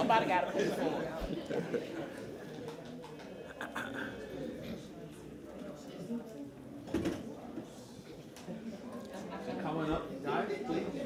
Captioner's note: laughter